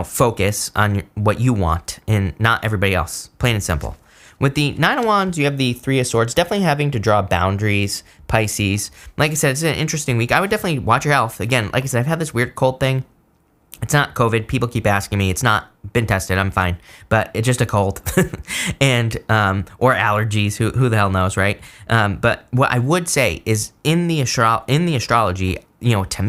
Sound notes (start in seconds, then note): 18.0 chuckles